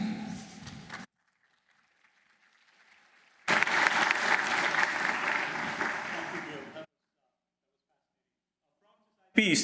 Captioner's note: applause